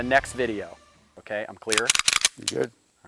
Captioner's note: gun clicking